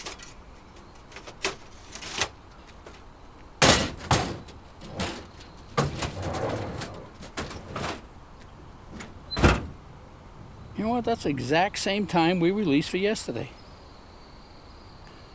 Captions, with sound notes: (metal clanking) (birds chirping) (crates clattering) (tailgate thuds) You know what, that's the exact same time we released for yesterday.